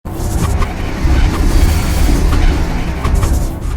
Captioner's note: air whooshing